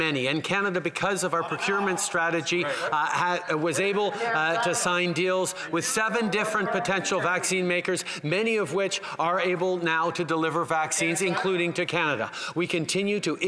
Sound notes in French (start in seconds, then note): 4.4 voix de l'interprète